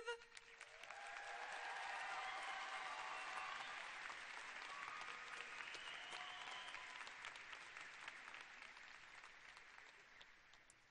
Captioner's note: cheers and applause